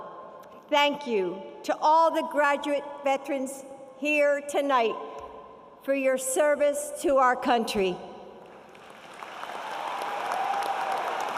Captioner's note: applause